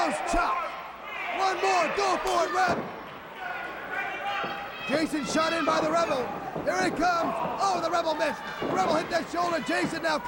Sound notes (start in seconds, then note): 3.8 crowd chatter